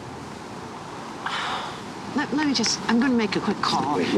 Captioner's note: sighing